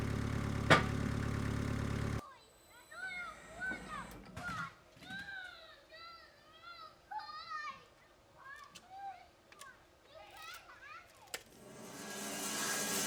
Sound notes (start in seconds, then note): 0.0 wood crashing down on trailer; 0.0 engine running calmly; 2.7 children playing in background